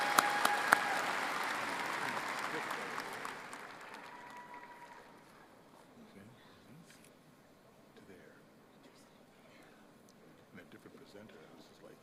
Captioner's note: applause